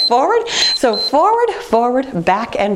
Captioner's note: timer beeps